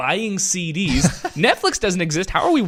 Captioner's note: laughs